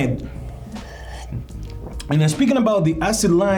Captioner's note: slurping